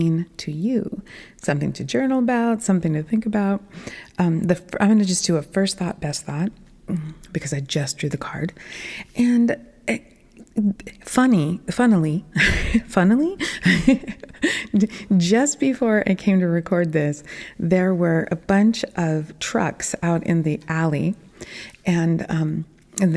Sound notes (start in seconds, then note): 13.4 laughing